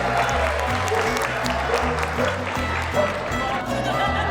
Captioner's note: cheers and applause; dog barking; laughter